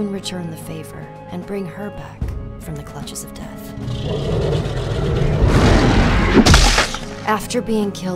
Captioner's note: roar, crunch